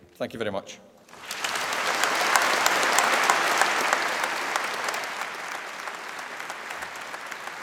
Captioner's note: applause